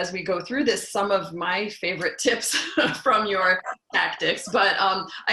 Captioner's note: laugh